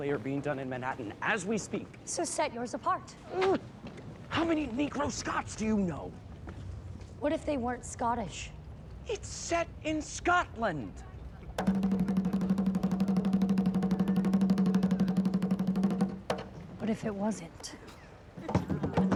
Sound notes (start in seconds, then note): 4.0 whispering; 11.5 drumbeats; 18.3 laughing; 18.4 lively drumbeats